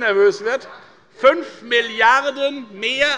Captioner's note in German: Unruhe - Glockenzeichen des Präsidenten